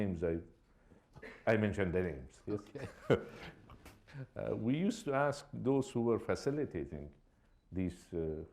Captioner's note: chuckles